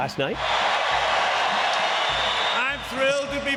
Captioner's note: crowd cheering